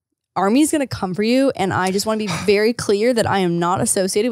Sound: sighs

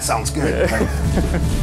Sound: upbeat music; laughing

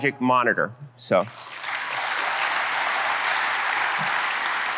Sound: applause

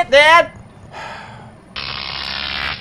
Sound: sighs; more electrical crackling

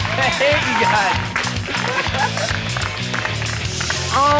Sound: clapping

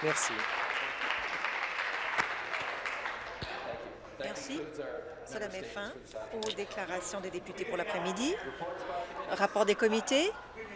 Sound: applause

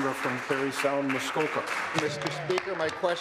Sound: applause

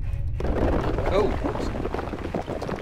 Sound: dramatic music; crumbling

